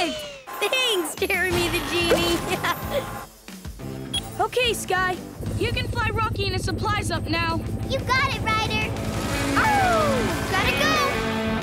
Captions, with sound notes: Thanks, Jeremy, the genie! [laughing] Okay, Skye, you can fly Rocky and his supplies up now. You've got it, Ryder! [howling] Gotta go!